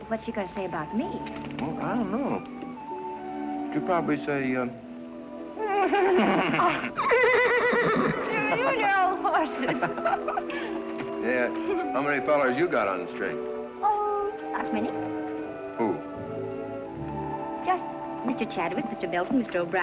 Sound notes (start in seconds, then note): 5.6 mimics horse neighing; 8.2 horse neighs